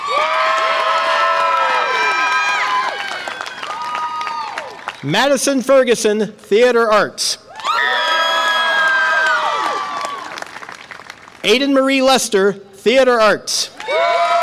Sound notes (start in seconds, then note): 0.0 audience applause and cheer; 7.5 audience applause and cheer; 13.8 audience applause and cheer